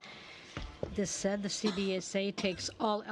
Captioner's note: speaking French